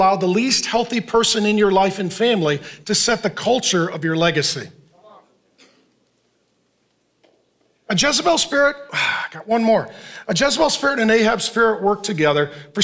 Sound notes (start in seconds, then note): 9.1 sighs